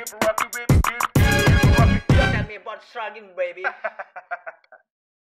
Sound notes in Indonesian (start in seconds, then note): 3.6 laughin'